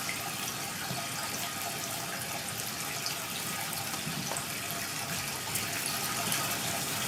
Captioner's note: water trickling continues